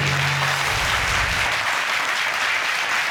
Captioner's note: audience clapping